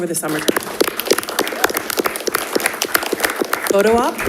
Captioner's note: attendees applauding